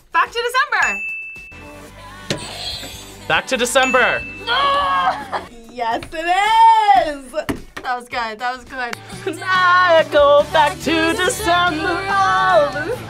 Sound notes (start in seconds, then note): 0.8 bell rings; 0.9 backwards music; 1.4 buzzer rings; 3.6 bell rings; 4.4 laughs